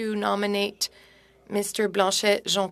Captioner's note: speaking French